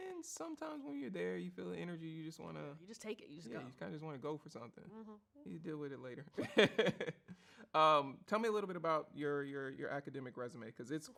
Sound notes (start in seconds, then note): 7.1 laughs